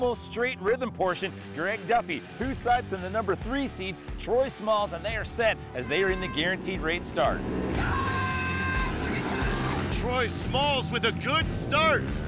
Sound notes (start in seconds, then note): 7.7 engines revving